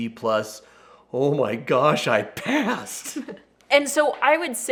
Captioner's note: giggles